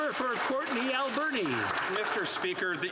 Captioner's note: some Applause